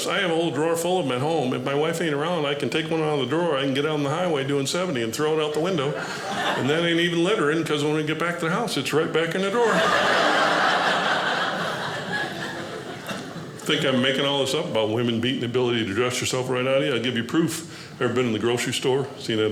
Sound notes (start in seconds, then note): 9.6 audience laughing